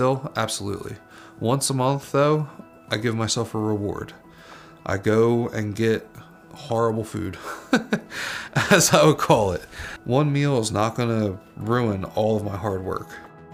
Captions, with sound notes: Absolutely. Once a month though, I give myself a reward. I go and get horrible food (laughs) as I would call it. One meal is not gonna ruin all of my hard work.